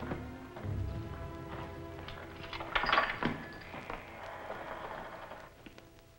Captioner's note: lock Clicking